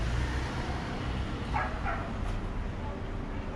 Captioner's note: bark bark!!